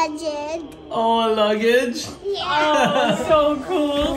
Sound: laughs

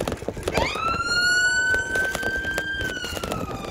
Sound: siren

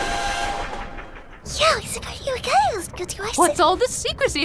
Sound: whispers

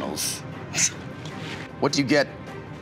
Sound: scoffs

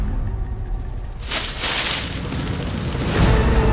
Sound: leaves rustle

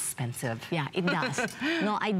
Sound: laughter

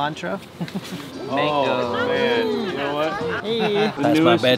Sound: group chattering

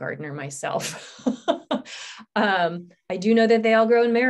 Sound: chuckles

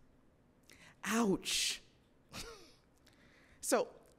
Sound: chuckles

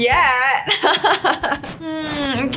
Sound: laugh

